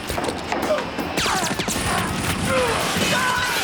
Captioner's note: groaning